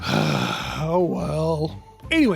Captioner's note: sigh